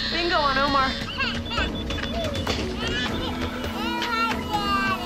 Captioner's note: baby crying